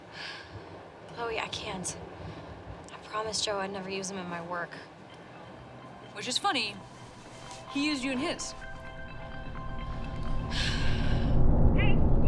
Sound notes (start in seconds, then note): 7.3 phone rings; 10.4 tense music